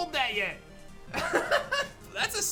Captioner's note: laughs